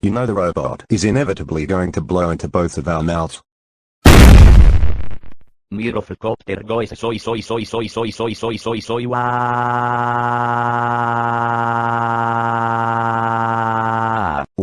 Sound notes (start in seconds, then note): 4.0 gunshot